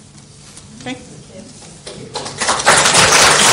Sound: clapping

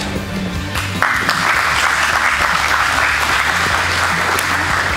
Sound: spectators applauding

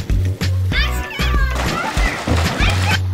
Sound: splash

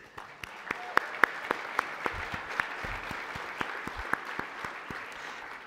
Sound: applause

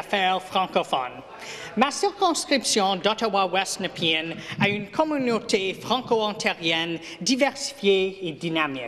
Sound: speaking FRENCH

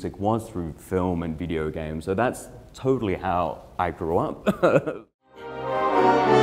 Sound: laughing; upbeat orchestra music

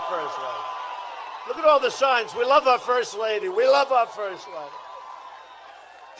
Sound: applause

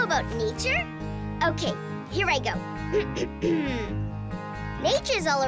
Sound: clears throat

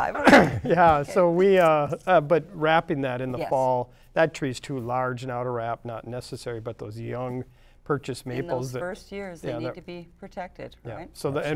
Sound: laughter

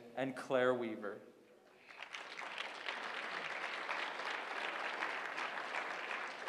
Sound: applause

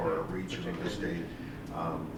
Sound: none

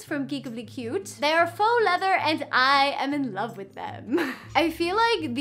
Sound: chuckles

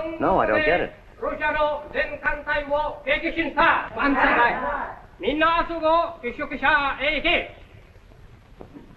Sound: speaking japanese

